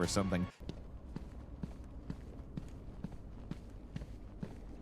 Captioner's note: footsteps patter